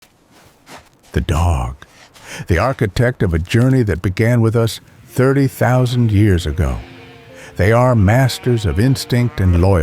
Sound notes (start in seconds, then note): 0.0 footsteps; 4.8 howling